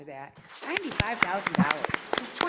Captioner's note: audience applauds